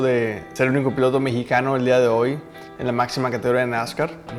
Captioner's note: Spanish